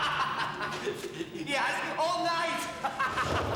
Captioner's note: guffawing